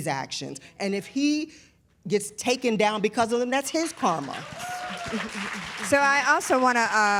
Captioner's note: applause